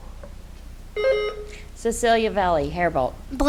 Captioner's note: buzzer beeps